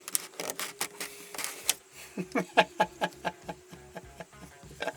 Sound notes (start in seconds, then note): 0.0 creaking and twisting; 2.0 laughs